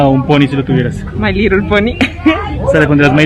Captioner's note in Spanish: risas